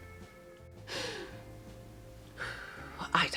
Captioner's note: inhales deeply